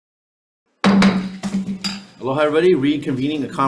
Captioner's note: gavel pounds